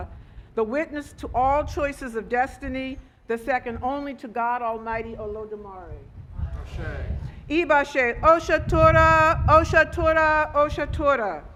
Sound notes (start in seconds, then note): 1.4 speaking Foreign Language